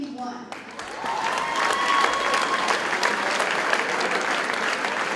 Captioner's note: audience cheers and applauds